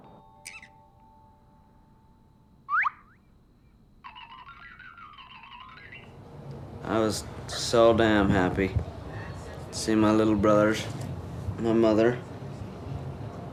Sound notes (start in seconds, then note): 1.9 TV show sounds